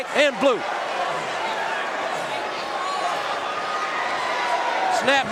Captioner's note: audience cheering